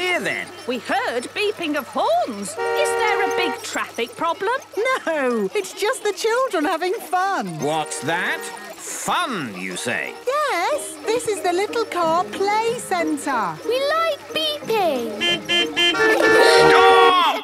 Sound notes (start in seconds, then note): 14.6 horns beeping